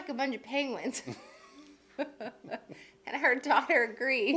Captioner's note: laughing